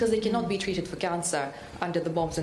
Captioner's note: speaking non-english